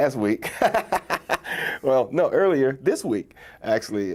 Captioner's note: laughs